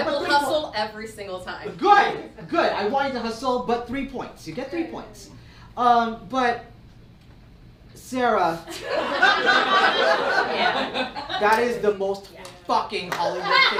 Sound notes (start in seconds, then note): 8.7 audience laughs